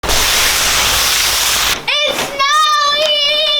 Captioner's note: rustling